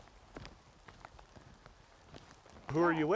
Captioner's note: footsteps on mud